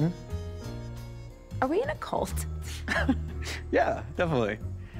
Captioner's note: chuckles